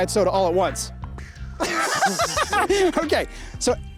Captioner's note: mimics explosion; laughs